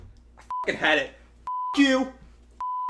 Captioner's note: beeps